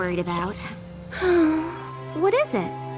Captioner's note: sigh